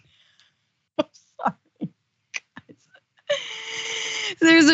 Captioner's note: laugh